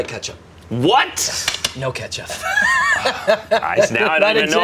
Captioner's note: laughs